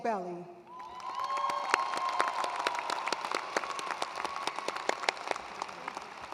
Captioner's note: attendees cheering and applauding